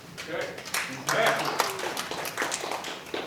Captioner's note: applause